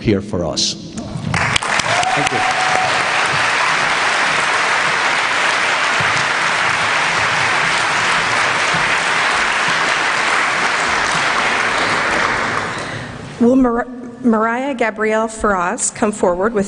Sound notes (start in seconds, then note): 1.2 applause